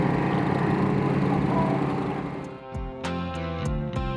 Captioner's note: engines fade out